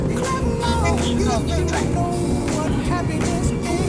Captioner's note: SATNAV speaks